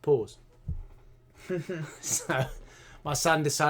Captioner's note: laughter